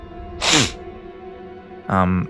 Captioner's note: snff